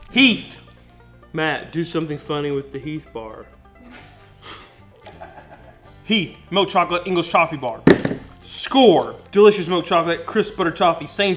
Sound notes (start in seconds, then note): 3.8 laughing